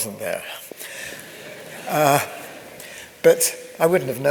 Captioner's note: audience laughs